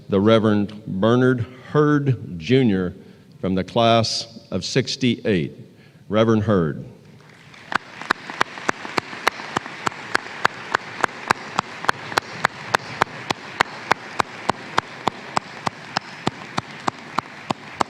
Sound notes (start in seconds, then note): 7.1 applause